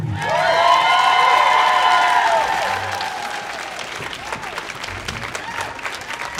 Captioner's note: audience applauding; audience cheering